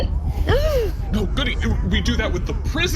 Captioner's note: the warden gasps